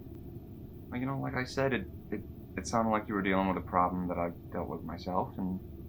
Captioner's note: none